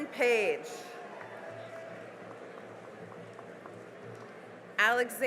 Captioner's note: cheering and applause